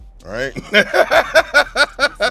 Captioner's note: laughs